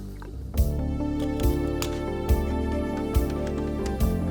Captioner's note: wire snaps